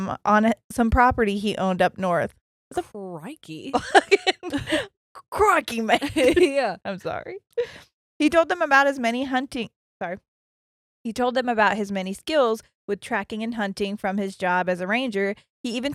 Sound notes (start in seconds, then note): 3.7 laughing